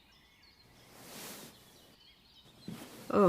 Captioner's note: rustling